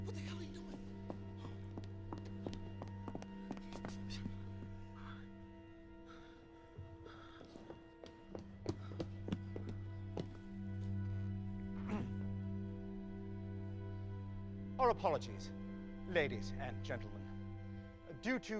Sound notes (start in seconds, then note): 7.0 panting; 7.3 footsteps; 11.8 clears throat